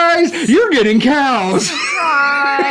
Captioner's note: laughs